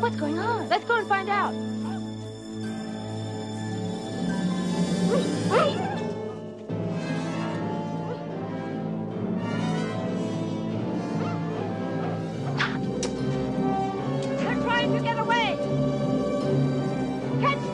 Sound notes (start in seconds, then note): 0.0 slow, tense orchestral music; 4.7 dogs barking; 10.1 slow, tense orchestral music